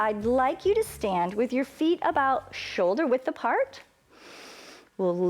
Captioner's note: inhales